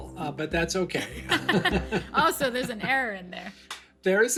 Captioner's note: laughter